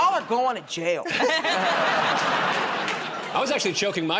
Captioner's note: laughter